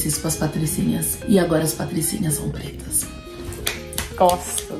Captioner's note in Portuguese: palmas